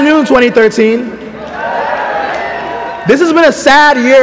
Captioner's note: cheering